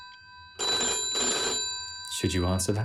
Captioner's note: phone ringing continues